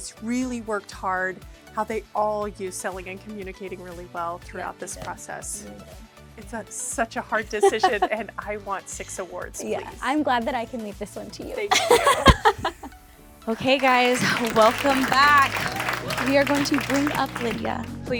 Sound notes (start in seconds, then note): 11.7 laughing